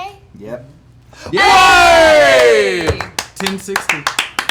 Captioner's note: cheering